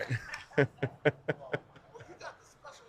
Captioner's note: laughs